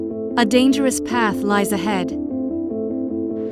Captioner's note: voiceover